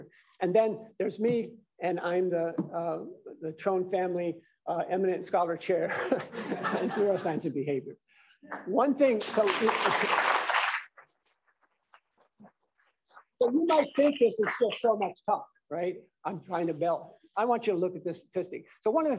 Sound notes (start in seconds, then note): 9.1 applause